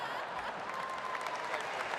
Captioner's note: applause